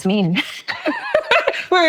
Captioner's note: laughing